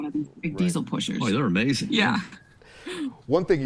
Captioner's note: chuckling